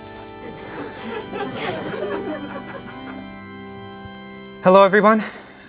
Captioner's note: crowd laughing